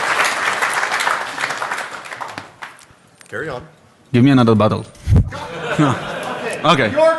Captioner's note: laughter